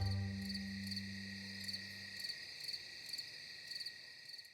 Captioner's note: insects chirping